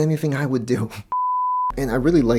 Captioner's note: beep